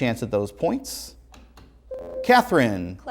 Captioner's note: ringing